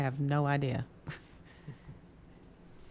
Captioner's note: chuckles